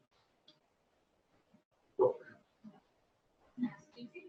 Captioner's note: pause